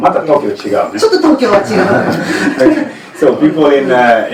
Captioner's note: Japanese language 00:07:28